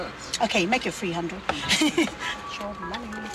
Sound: laughter

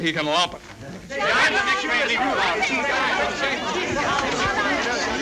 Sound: colleagues shouting

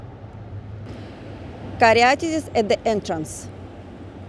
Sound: street & Traffic Noise

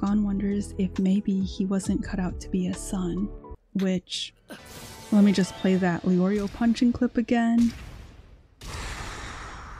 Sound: inhale

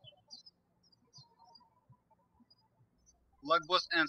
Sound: birds chirping

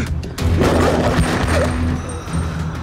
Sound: gunshots

